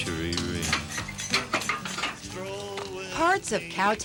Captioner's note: gate clangs